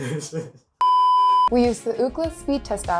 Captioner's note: producer laughing; standby tone